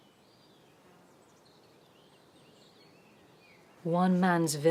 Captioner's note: birds chirping